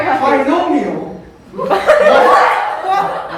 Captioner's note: everyone chuckles